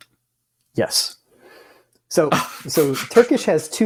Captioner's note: exasperated laughter